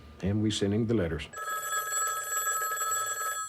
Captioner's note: phone rings